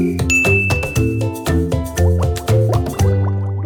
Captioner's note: bell dinging; bubbles bubbling